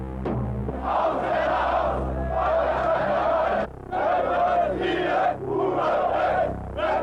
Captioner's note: protestors chanting in foreign language